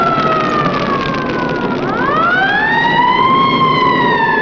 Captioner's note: siren wailing